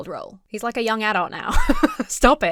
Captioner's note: laughs